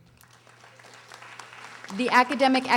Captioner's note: audience applauding